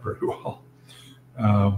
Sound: laugh

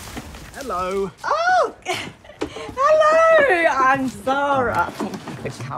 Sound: laughs

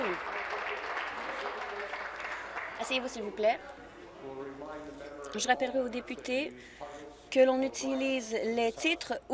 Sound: some Applause

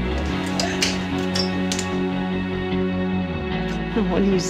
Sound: door closes, lock clicks

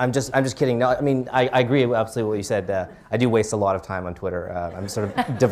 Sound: laughter

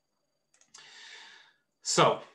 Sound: mouse clicks

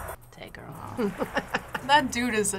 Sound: laughs

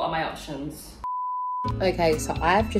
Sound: beeping

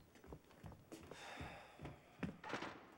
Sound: sighing

